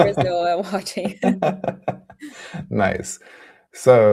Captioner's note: laughter